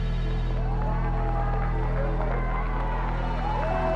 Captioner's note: muffled cheering, applause